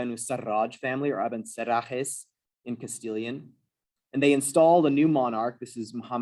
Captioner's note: non-english